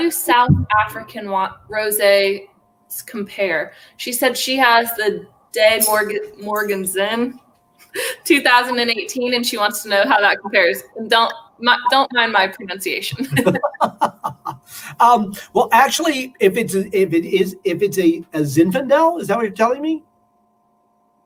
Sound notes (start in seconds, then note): 13.1 laughter